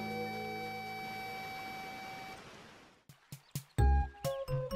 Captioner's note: water splashing; lighthearted music continues